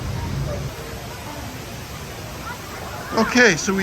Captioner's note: people chattering